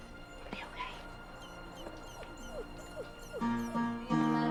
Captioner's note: whimpering